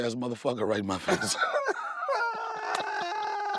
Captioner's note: both laugh